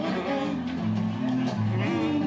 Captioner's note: humming